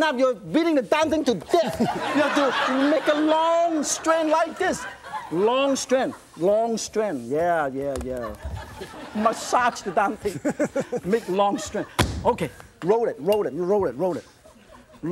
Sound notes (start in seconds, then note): 1.5 audience laughs; 10.8 laughs